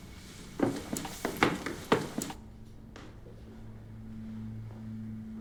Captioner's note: footsteps creaking